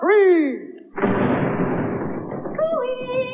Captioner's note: sound Of Thunder